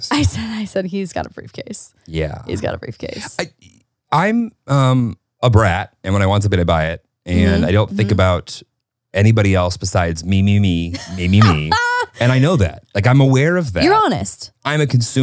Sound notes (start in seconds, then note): 10.9 laughs